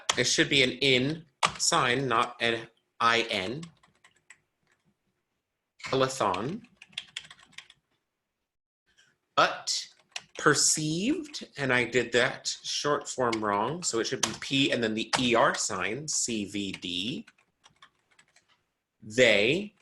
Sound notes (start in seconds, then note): 5.9 keyboard tapping